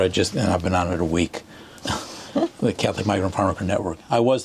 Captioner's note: laughter